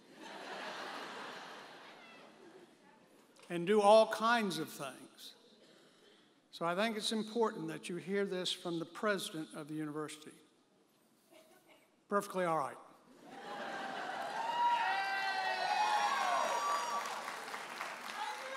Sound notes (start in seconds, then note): 0.1 audience laughs; 13.2 audience laughing; 13.6 audience applauding and cheering